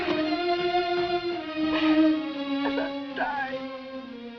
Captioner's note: sobs